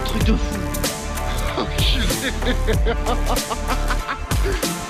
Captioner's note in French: il rit